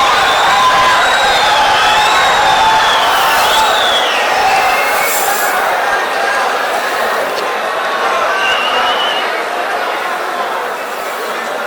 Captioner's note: wild applause and cheering for 22 seconds